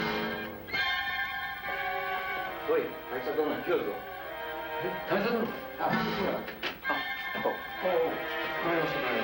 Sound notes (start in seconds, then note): 3.2 speaking foreign language